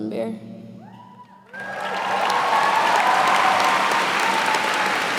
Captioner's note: cheers and applause